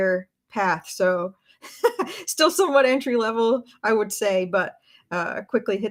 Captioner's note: laughs